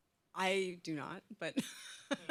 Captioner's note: laughs